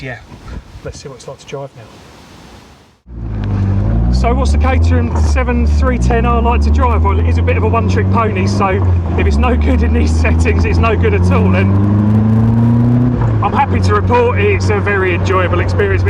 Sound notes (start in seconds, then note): 2.5 engine revs; 12.0 engine noise